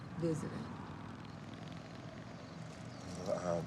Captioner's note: motorcycle engine buzzing